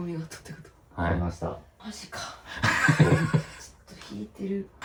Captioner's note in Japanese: 笑い